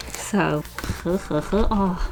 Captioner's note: giggles happily